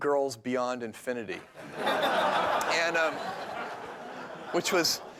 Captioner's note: laughter